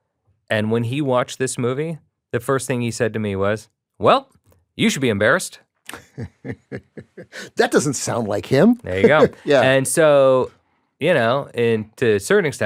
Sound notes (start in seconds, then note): 5.9 chuckles